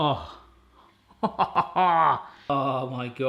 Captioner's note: laughs